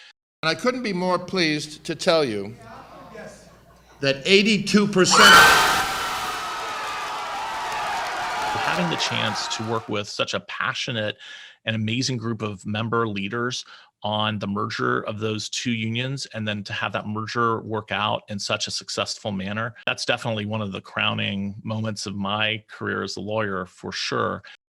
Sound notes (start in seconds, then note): 5.7 co-workers applauding